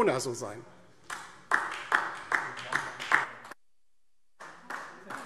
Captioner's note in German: Beifall DIE LINKE